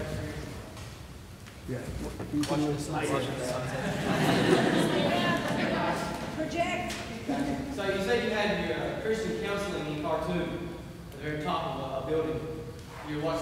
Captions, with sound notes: What was that experience like? - Yeah, you came in with some questions. (audience laughs) - Project! - So, you said you had the Christian counseling that you talked to at the very top of a building